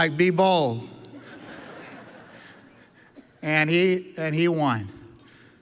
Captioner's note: audience laughs